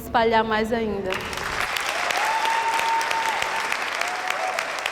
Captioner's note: applause